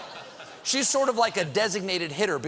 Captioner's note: laughter